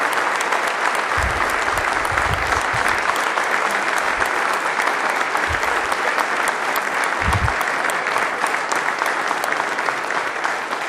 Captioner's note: applause